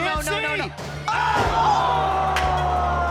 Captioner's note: all exclaiming